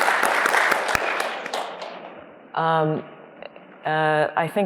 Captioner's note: applause